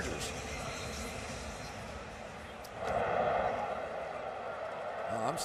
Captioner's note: pa announcement